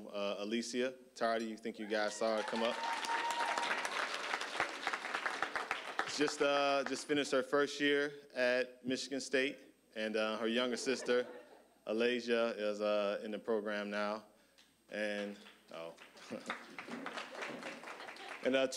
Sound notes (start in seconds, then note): 2.2 applause; 15.9 applause